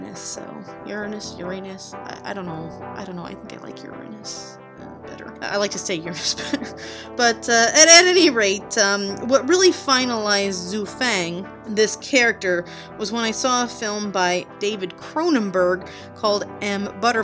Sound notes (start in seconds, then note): 7.9 laughs